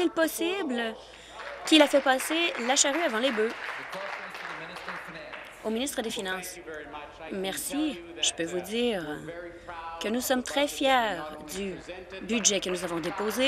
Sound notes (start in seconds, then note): 4.9 applause